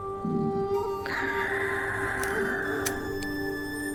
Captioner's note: breathy exhail